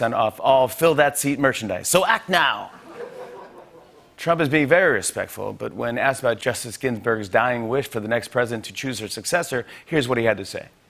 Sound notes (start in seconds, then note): 2.7 laughter